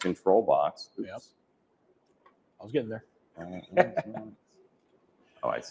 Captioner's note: laughs